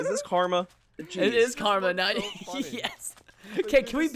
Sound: laughs

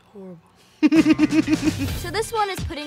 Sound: laughing

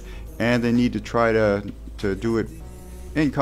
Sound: none

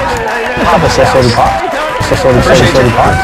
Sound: audience cheering; audience chanting

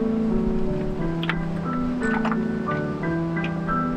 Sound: rocks rolling

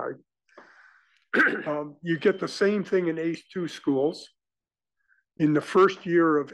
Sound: cough

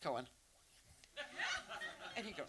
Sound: audience laughs

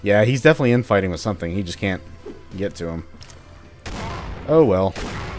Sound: boom

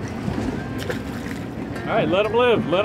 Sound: lobster splashes

